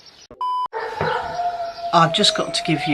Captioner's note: dog howling